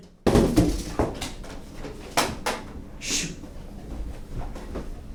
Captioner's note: cardboard clattering